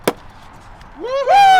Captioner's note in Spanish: pops de champán; aclamaciones